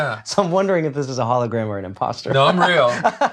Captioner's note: laughs; laughs